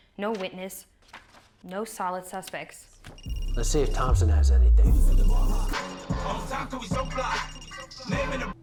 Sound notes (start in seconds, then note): 4.4 cell phone ringing; 5.9 phone rings